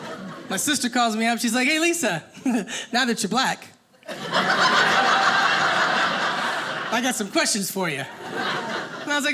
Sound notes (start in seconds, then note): 4.0 audience laughing